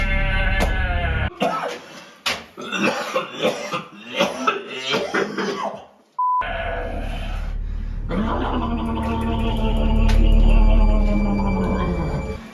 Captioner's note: coughing